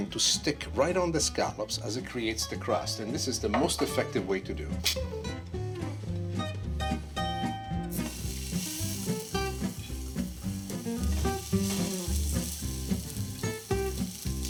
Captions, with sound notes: to stick right on the scallops as it creates the crust, and this is the most effective way to do. (scallops sizzling) (upbeat music)